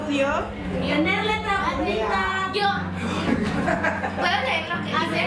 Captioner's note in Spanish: students talking